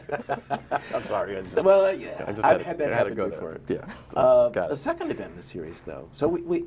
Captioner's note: laughter